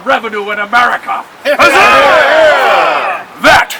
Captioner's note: crowd